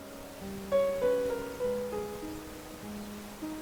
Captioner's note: wind blows